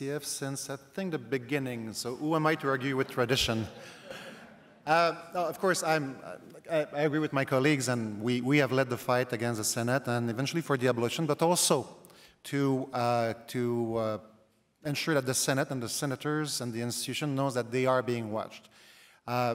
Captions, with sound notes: and the CCF since, I think, the beginning so who am I to argue with tradition? [laughter] No, of course I agree with my colleagues and we have led the fight against the Senate and eventually for the abolition but also to ensure that the Senate and the Senators and the institution knows that they are being watched.